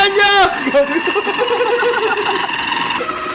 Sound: laughter

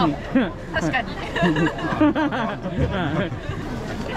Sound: laughs

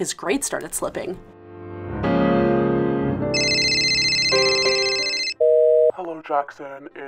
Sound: Jackson’s phone rings- plays voicemail from teacher

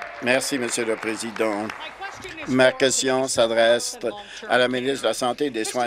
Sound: applause

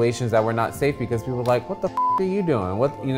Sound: beep

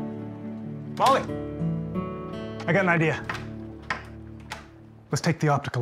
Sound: door opens, closes

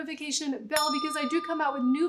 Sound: bell dinging

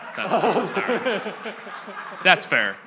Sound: audience laughs

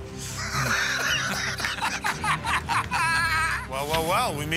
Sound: laughter

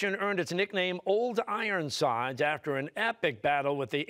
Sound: none

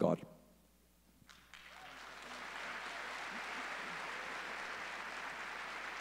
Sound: audience applauding

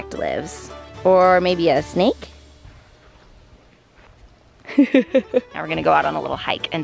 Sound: laughs

